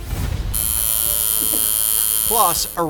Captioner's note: tattoo gun buzzes